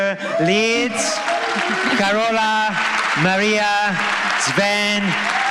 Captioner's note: applause